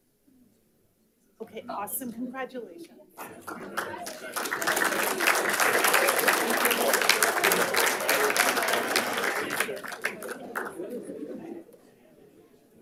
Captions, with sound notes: Okay, awesome. Congratulations. (audience applauding) (light chatter)